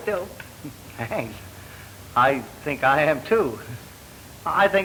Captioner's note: laughs